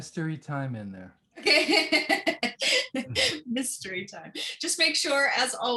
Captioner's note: laughter